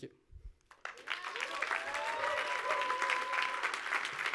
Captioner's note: audience applauds